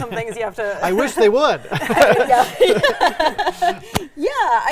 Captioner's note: group laughing